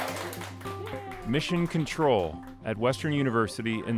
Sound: applause

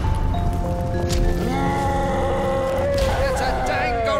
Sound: gentle music; gorilla roaring

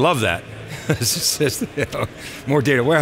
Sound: laughs

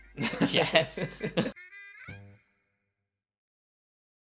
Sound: laughing

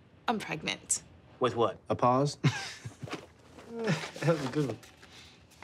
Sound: chuckles

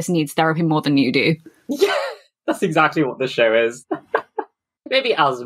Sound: laughing

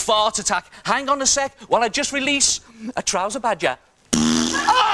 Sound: farts a 5th time

